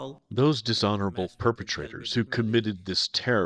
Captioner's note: through translator